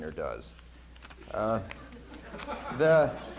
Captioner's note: laughter